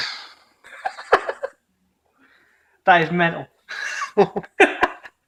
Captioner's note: laughs